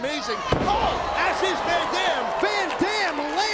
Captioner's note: mat thumping